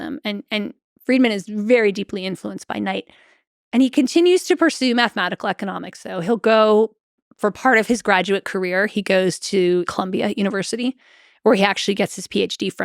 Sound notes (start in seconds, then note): none